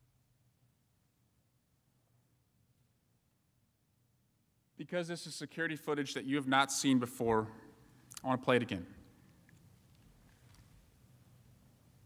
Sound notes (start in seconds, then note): 3.1 silence